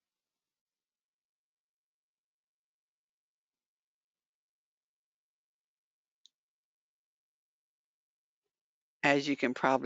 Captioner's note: 8 seconds pause